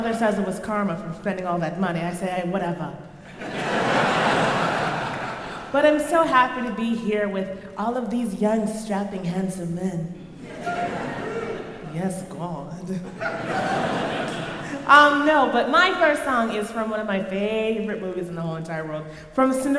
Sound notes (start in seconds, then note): 3.2 crowd laughing; 13.0 crowd laughing